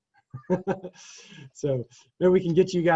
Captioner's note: laughs